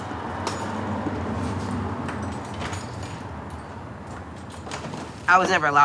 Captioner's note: traffic humming in background